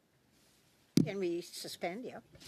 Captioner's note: speaking French